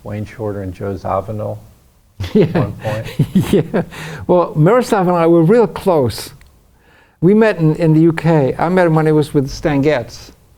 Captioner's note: laughs